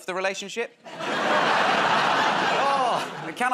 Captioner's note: laughter